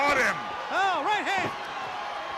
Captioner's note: crowd cheering